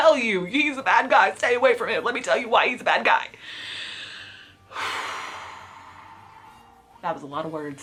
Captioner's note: deep exhale